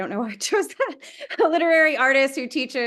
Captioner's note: laughs